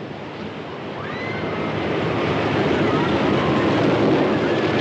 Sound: shrieking Continues

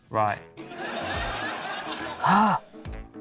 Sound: laughter

